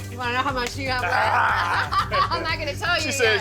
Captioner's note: chuckles